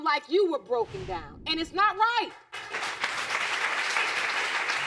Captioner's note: audience applauding